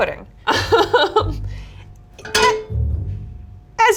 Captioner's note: laughs